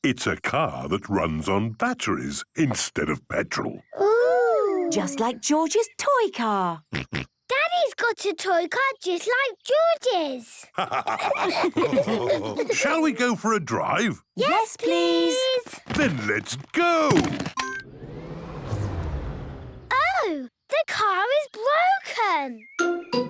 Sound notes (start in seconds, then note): 10.7 all laughing; 17.5 car chimes; 17.6 whirring, whirring stops